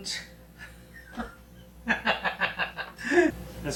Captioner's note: both laughing